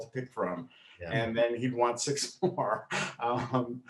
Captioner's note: laughs